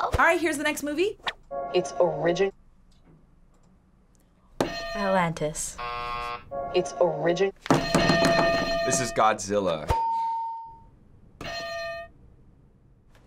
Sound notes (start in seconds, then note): 4.7 hitting bell; 5.7 buzzer; 7.8 hitting bell; 10.0 ding